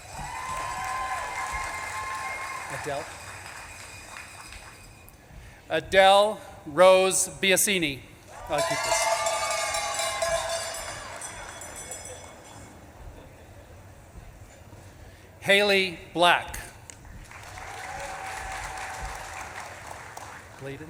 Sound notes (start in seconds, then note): 0.0 audience claps and cheers; 8.5 bell clanging; 9.9 audience claps and cheers; 16.9 audience claps and cheers